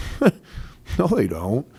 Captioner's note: laughs